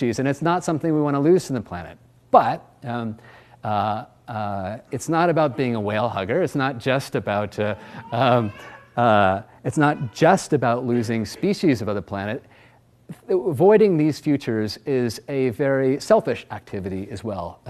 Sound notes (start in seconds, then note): 7.6 laughs; 7.7 child wails